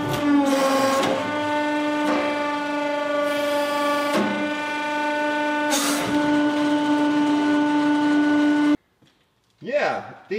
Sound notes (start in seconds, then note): none